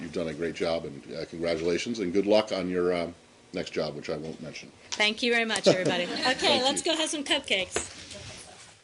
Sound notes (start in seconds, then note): 5.6 laughter